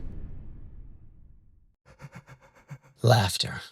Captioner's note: scary laughter